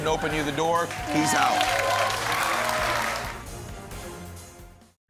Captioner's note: applause